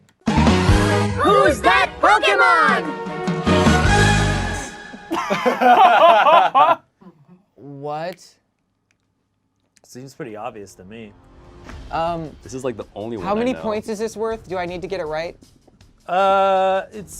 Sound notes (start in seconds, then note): 0.2 upbeat dramatic music; 5.0 group laughs